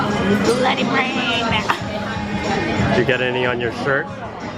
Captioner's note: laughs